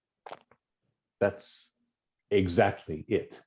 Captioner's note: silence